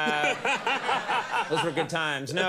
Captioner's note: laughing